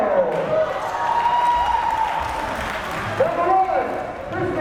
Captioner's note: crowd cheering